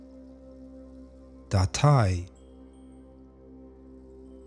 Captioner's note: german